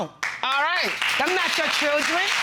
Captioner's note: audience applauding